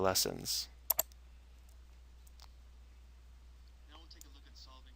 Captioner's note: mouse clicking